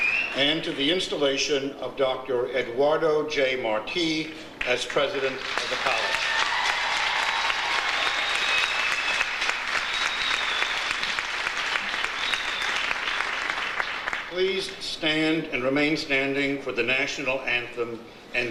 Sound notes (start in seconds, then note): 7.4 audience cheers; 10.4 audience applauds